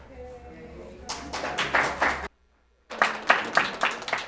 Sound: audience applauding

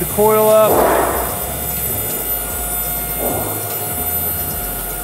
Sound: machine motor running

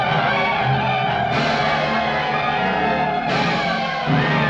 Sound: Yaqui shouting

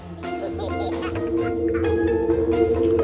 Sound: baby laughs; action music

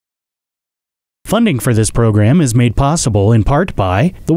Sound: voiceover

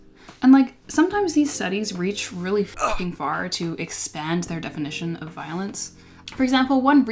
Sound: grunt

